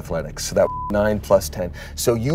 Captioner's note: beep